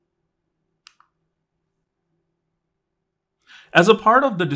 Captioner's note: remote clicking